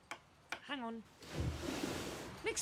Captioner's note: sound of a window sliding open